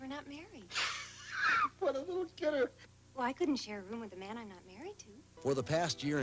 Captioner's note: laughing